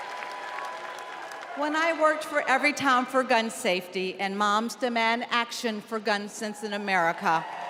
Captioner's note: cheers and applause